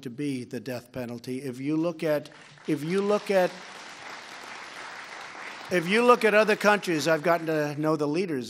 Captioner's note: applause